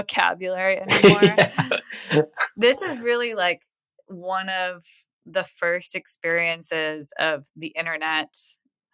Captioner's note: <Laugh>